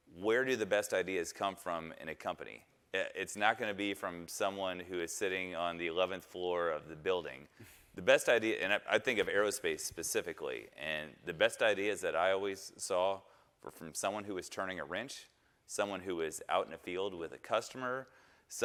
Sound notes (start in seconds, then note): 7.6 chuckles